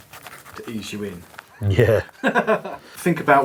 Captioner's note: laughing